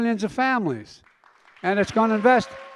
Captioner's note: applause